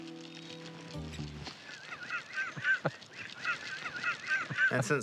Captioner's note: laughs